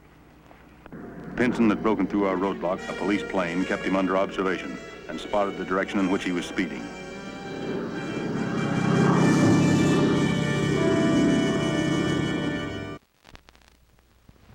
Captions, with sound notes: Pinson had broken through our roadblock. A police plane kept him under observation and spotted the direction in which he was speeding. (exciting music) (plane engine revving)